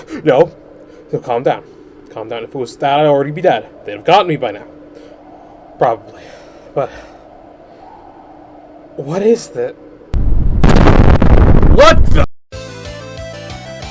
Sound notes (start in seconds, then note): 10.1 distant rumbling; 10.1 loud ass explosion